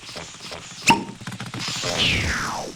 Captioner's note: machine sputters